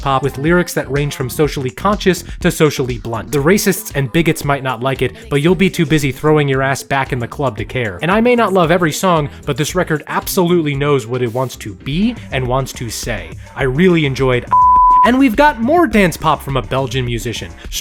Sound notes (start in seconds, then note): 14.5 beep